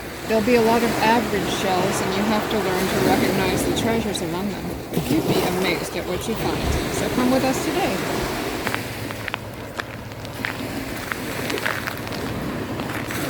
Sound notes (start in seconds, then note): 9.0 feet crunch on beach